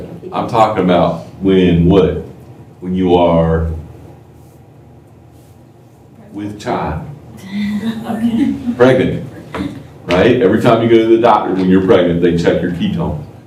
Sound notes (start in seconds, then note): 7.6 laughter